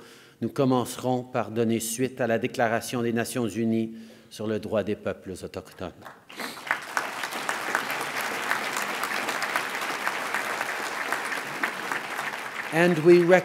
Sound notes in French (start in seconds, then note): 6.0 Applaudissements